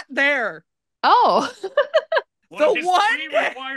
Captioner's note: laughs